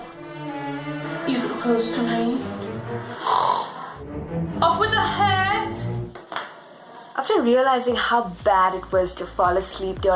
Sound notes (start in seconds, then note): 3.1 snores